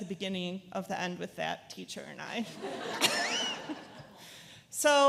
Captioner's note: laughs